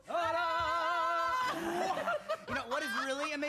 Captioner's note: laughing